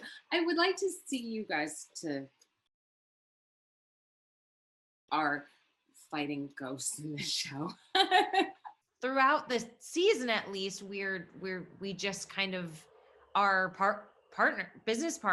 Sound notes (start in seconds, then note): 7.9 laughs